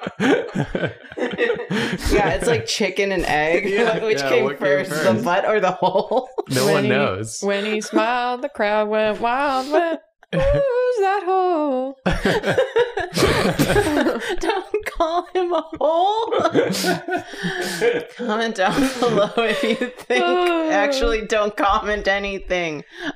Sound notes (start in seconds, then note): 12.0 laughter